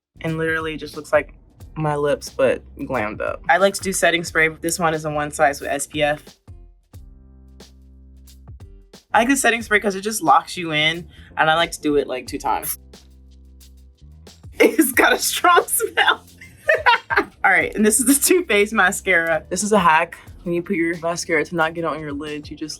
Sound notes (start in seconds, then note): 0.0 lively music continues; 6.6 lively music continues; 12.8 spray hissing; 14.6 Coco laughing